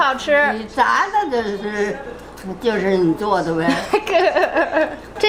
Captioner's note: grandma speaking Chinese; laughs